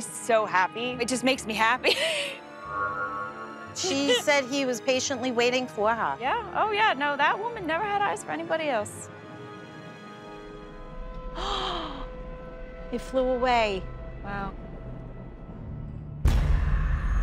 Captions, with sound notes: It just makes me happy. She said he was patiently waiting for her. Yeah. Oh yeah. No, that woman never had eyes for anybody else. [gasps] He flew away. Wow. [shouts]